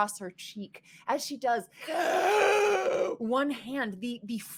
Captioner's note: screeches